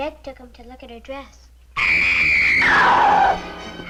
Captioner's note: Meg screaming; suspenseful music